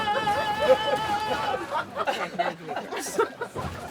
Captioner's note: everyone laughing